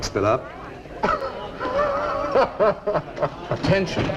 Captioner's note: laughs